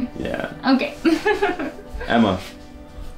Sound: emma joyfully giggles

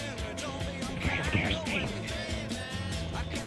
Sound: whispers

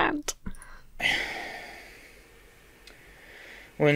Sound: sighs

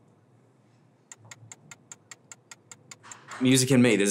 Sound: ticking

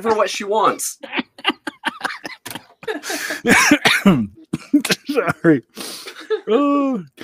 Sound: laughing

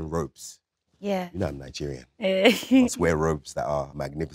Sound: chuckles

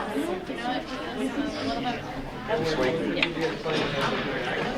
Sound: audience murmuring

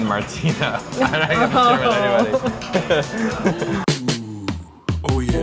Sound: laughs nervously; creepy porn voice

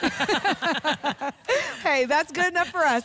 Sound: laughter

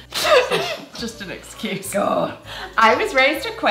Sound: laughs

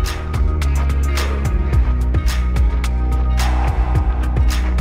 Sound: panting

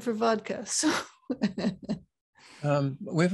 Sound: laughs

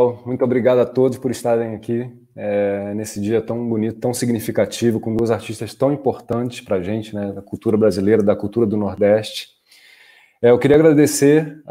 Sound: speaking in Portuguese

